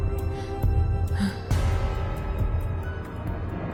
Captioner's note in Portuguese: Jill suspira